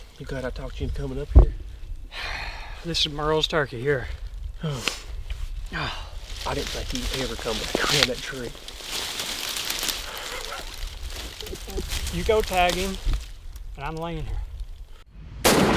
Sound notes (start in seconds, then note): 2.1 sighs; 5.7 groans; 11.4 chuckles